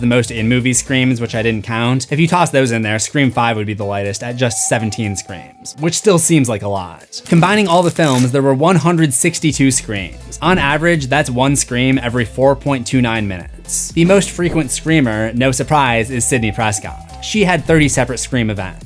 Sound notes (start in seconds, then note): none